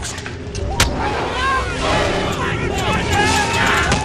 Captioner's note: all shouting